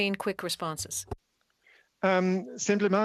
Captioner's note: speaking French